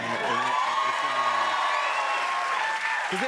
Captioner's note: cheers and applause